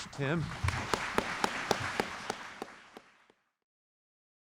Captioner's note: applause